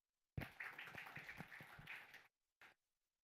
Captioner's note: applause